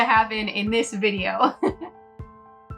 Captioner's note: laughs; upbeat music